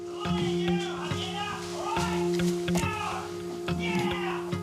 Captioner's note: man shouts angrily